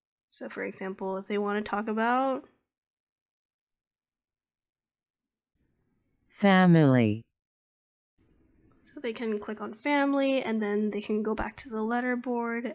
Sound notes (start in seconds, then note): 2.1 automated voice